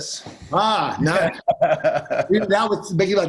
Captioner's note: laughing